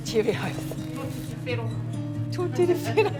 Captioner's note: woman speaks in te reo; speaks in te reo